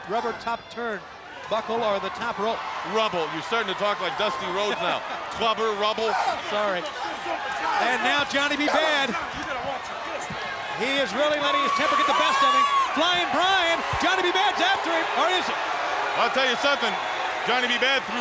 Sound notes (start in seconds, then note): 5.7 laughs; 6.0 blows thudding